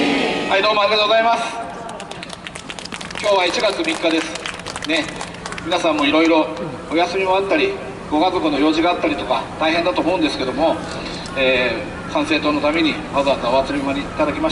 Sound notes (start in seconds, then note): 1.7 clapping